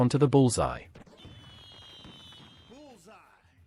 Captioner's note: fireworks popping